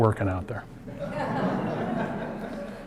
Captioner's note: audience laughs